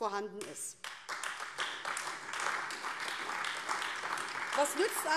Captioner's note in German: Beifall AfD